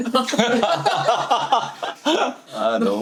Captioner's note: hahahahaha